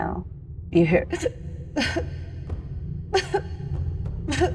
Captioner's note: wimpers